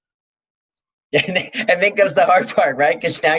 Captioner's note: laughs